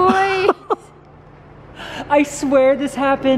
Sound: laughing

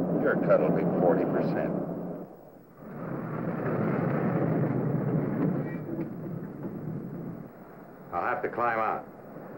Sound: none

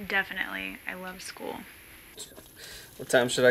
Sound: sarcastic tone

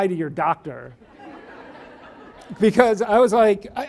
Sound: audience laughs

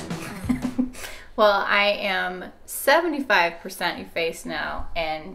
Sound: laughing

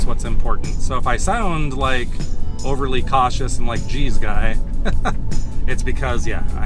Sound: laughter

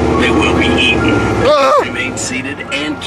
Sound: yelps

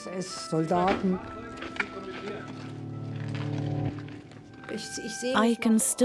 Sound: speaks in foreign language

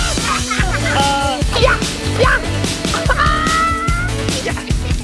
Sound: laughs; yells; laughs

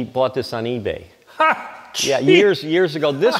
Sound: laughs

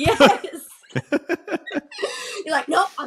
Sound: laughing

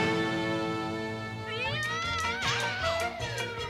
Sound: exclaims

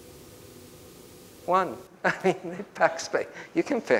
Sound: chuckles

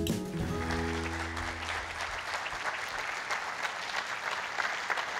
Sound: audience applauding

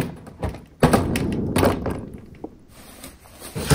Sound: louder bang

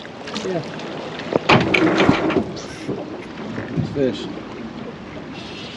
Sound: clattering

